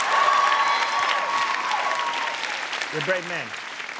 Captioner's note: audience cheering and applauding